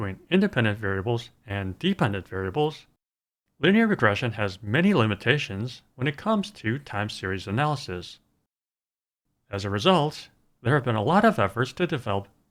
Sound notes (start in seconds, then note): none